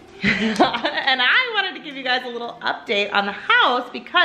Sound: laughs

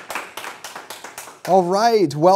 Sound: applause

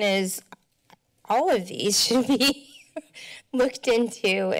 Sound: laughs

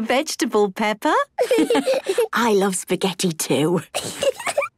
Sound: laughs

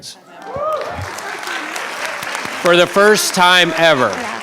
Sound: cheering

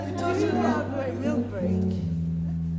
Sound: brothers chatter

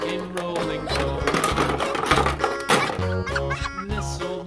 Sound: toys clatter

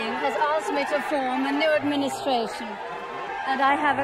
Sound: crowd cheering

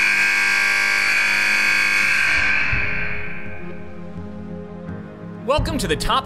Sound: buzzer sounds

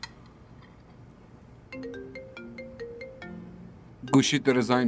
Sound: phone ringing

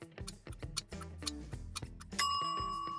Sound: groovy music; clock ticking; timer dinging

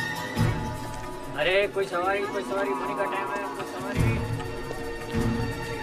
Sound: suspenseful music; chattering in foreign language

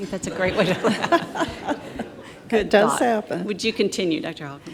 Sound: audience laughs

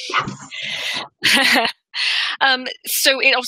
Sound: laughs

